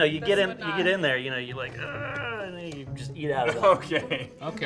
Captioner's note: grunting